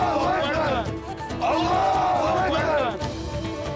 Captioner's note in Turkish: Hep bir ağızdan